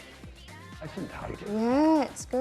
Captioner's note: faintly speaking